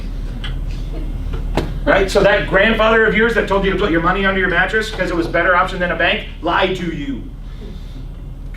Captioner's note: laughs